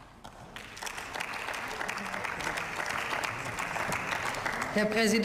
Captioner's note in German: Beifall